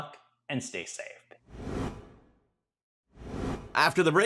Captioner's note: graphic whooshing